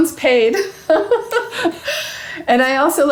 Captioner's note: laughing